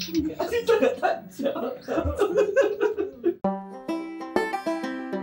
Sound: laugh

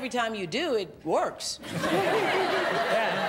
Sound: laughter

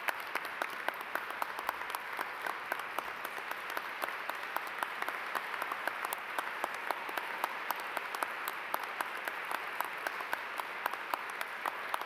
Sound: applause

